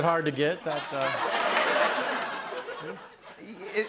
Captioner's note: laughter